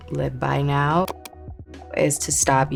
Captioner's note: mouse clicking